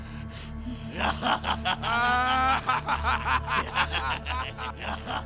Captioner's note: laughing maniacally